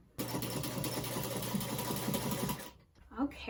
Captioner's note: sewing machine whirring